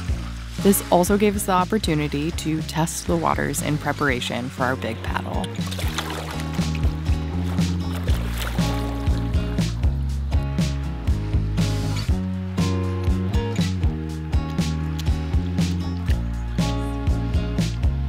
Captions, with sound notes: This also gave us the opportunity to test the waters in preparation for our big paddle. (water sloshing)